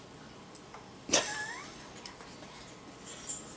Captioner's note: laughing